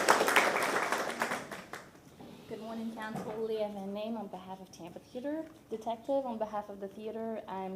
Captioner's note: applause